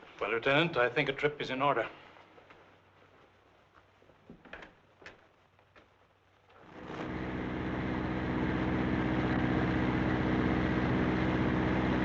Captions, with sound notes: Well, Lieutenant, I think a trip is in order. (door rattling) (vehicle droning)